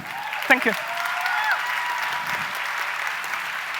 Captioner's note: applause